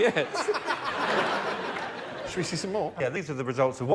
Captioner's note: laughter